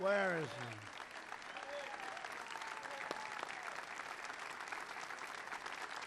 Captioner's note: applause